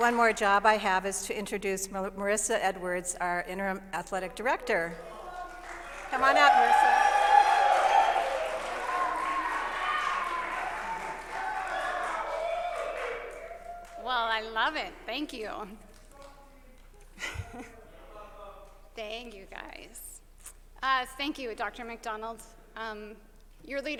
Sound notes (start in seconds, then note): 8.3 applause; 10.2 cheers